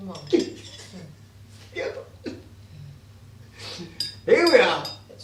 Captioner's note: giggling